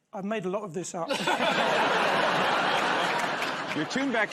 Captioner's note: laughter